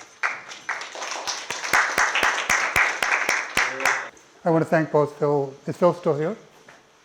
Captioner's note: applause